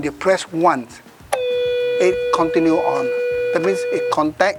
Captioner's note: the beep